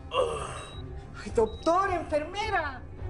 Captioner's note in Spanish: Quejidos